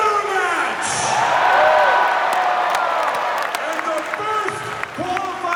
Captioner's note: crowd cheers